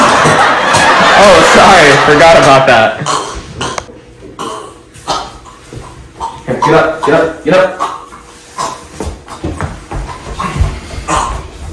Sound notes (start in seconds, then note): 3.0 guy is somehow still choking